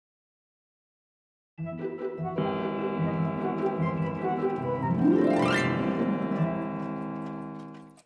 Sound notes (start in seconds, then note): 2.3 clock chiming